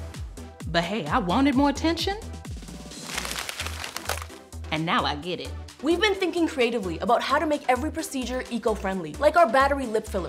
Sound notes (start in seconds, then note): 2.9 crunching, rustling